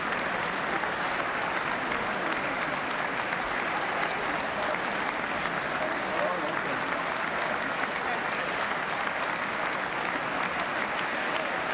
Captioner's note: applause